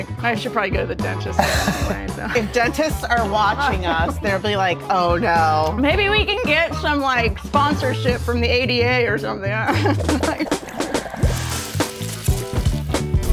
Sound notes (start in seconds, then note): 9.6 laughs; 10.6 upbeat music